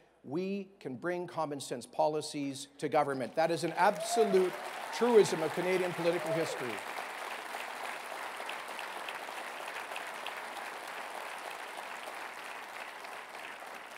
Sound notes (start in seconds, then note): 6.5 cheering